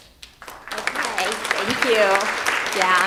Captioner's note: audience clapping